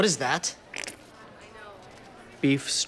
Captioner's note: squirting sound